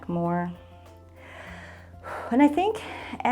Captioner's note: inhales and exhales